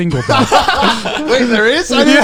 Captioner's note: laughing